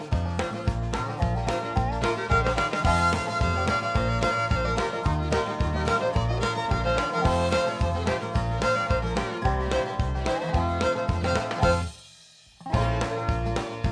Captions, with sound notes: [ LAUGHING ] TRUE ENOUGH. THERE'S NO DOUBT ABOUT IT. THAT'S THE BIGGEST PUMPKIN PIE I'VE EVER SEEN. [ LAUGHING ]